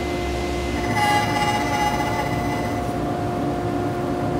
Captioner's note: machine whirring